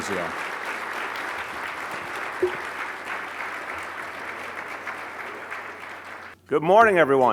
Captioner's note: applause